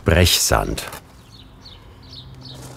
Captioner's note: birds chirping